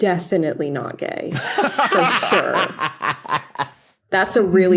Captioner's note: laugh